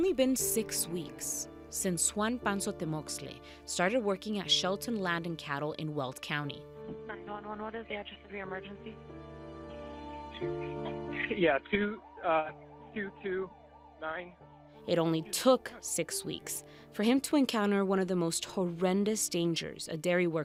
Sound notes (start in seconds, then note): 9.5 sirens wailing; 10.1 gentle music